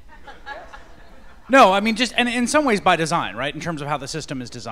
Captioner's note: laughter